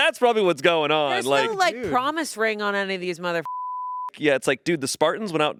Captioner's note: beep